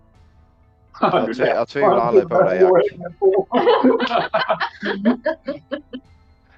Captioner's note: Cheering at Jack's comment